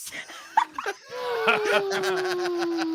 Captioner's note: laughs